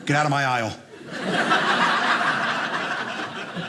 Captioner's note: audience laughing